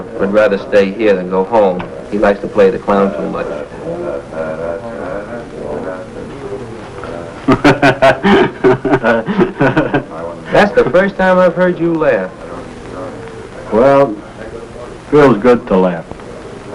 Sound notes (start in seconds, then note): 7.4 Mr. Rusk laughs